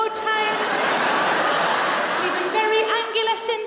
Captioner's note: audience laughs